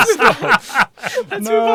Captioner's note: laughing